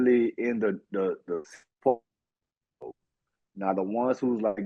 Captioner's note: audio out